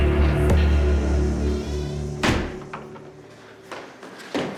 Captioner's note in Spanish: Sonido al cerrar la puerta